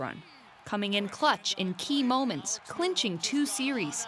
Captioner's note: cheers and applause